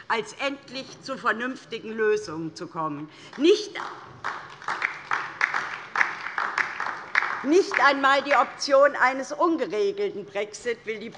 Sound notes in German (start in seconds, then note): 3.8 Beifall DIE LINKE